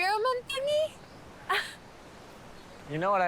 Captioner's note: she exclaims